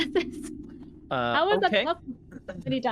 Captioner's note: laughing